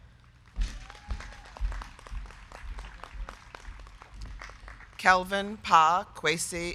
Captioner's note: crowd clapping; crowd cheering